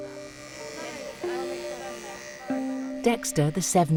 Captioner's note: rasor buzzing